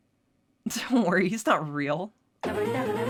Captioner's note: chuckling